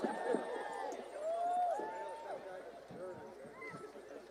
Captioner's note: laughing and cheering